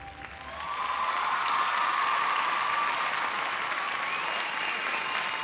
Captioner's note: applause, cheers